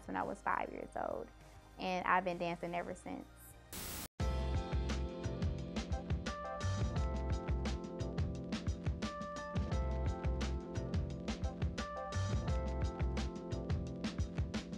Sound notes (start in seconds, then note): 3.7 static; 4.5 mellow music